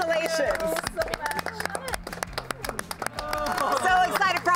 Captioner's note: group cheers and applauds